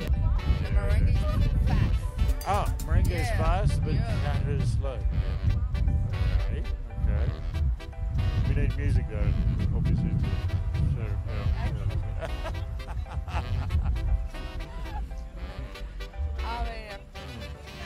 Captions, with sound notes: The merengue is to go fast. Oh. Merengue is fast, Yeah. Yeah. Bachata is slow. Yeah. Ok. Ok. We need music though. Obviously, to... To show how to... I cannot do this. [Laughter] Let's see..